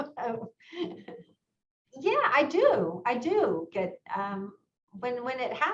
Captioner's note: chuckles